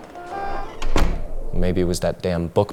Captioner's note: door clicks